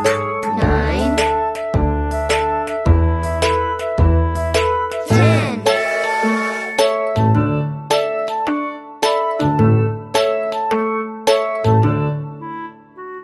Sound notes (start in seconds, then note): 2.1 bright music; 5.7 train whistles; 6.4 bright music